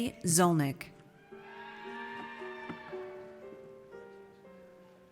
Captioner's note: audience cheers